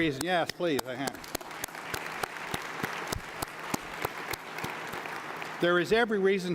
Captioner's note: applause